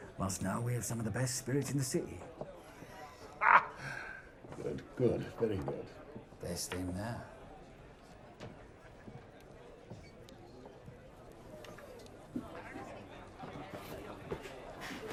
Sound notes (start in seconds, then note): 3.4 Frederick laughs; 10.4 patrons chattering